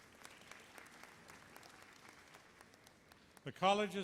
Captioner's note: applause